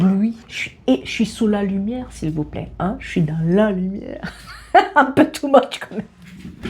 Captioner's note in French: rires